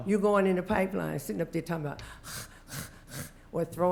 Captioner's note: heavy breathing